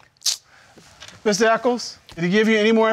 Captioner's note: clicks tongue